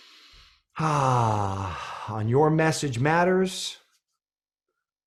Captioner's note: inhaling; exhales deeply